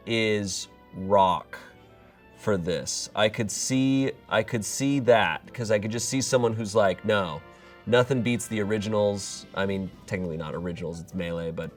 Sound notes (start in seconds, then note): none